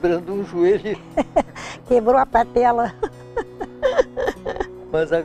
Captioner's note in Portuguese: risos